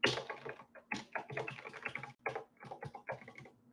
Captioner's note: keyboard clacking